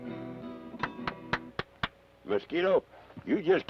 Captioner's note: Carney applauds